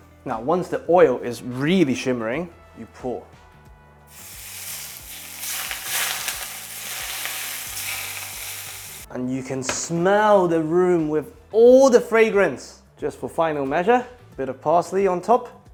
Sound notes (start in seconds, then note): 4.1 boiling sound